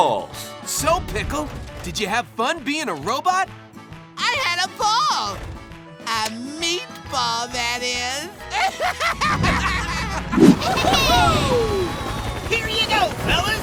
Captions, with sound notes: So, Pickle, did you have fun being a robot? I had a ball, a meatball that is. [laughing] [cheering] Here you go, fellas.